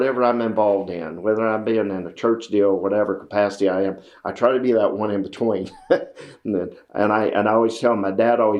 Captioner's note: laughs